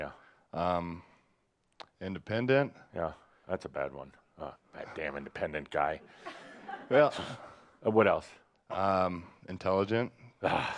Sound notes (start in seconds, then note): 7.2 some chuckles